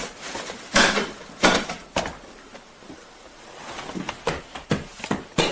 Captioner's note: thud, smashing banging thumping